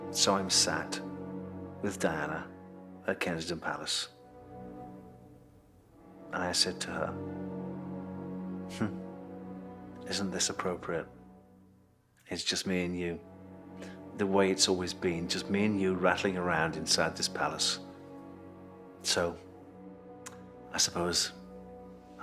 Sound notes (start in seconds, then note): 8.8 scoffs